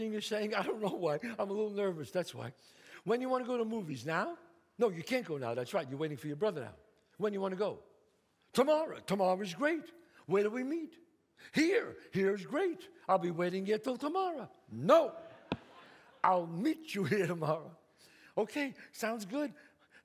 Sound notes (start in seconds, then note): 15.3 audience laughs